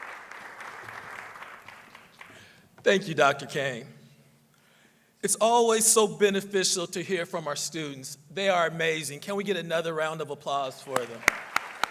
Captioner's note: applause